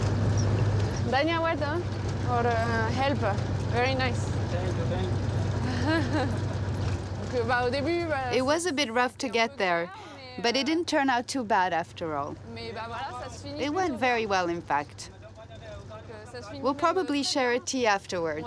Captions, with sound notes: [NON-ENGLISH SPEECH] Or helper. Very nice. [NON-ENGLISH SPEECH] [LAUGHTER] It was a bit rough to get there, but it didn't turn out too bad after all. It went very well, in fact. We'll probably share a tea afterwards.